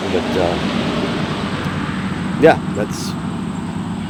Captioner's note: wind whooshing